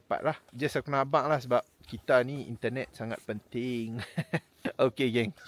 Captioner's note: laugh